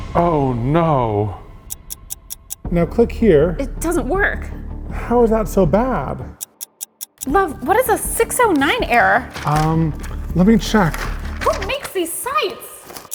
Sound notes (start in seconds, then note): 1.6 clock ticking; 6.3 clock ticking